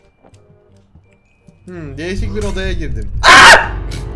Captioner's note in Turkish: Çığlık Sesi